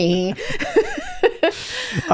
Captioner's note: laughing